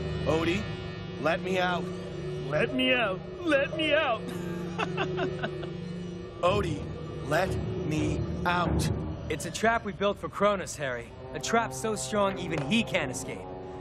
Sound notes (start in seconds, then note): 4.2 laughing